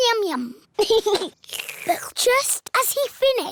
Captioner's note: giggles; slurps